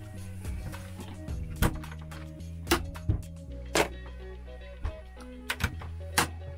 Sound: refrigerator clicks open and shut

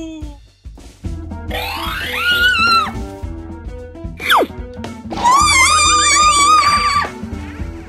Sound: screams

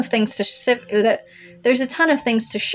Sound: blubber

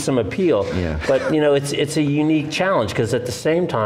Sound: laughs

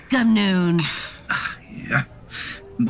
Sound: nurse groaning

